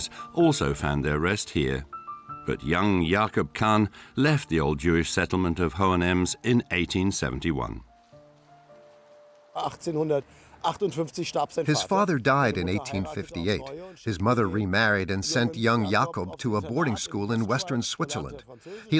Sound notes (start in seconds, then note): 9.9 speaking in German